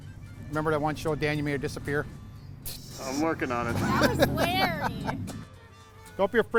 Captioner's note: laughing